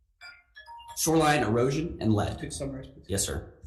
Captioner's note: phone timer rings